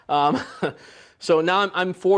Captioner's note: laughs